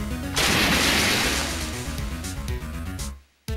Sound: splash!

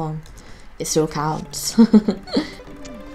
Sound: laughs

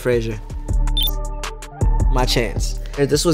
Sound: hip hop music; electronic beep

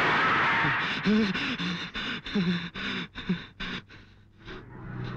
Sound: groans

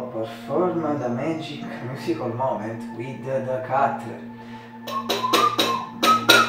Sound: whistle

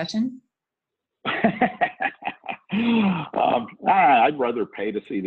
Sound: laughs

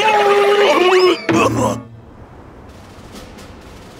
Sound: screaming; dramatic music

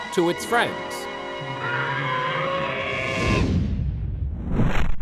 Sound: trumpeting

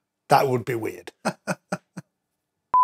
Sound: laughing

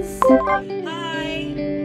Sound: computer chimes

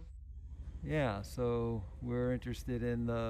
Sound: male Voice

